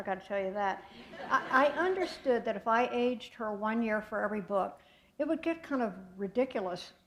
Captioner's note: laughter